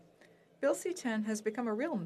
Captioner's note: speaking French